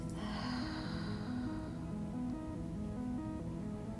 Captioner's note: exhaling; relaxing music and audible breathing